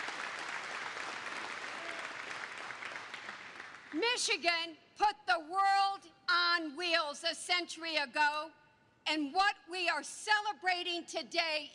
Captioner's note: applause